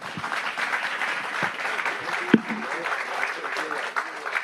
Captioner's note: audience applauding